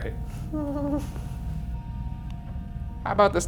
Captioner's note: giggles nervously